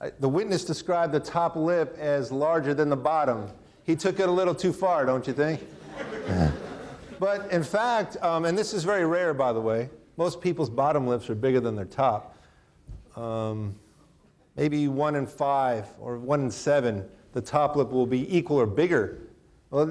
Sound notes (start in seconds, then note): 5.3 audience laughing; 5.5 chuckles